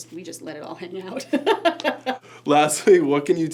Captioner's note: laughs